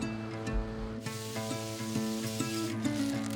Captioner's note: sizzling sound